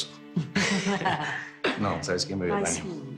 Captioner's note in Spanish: Risas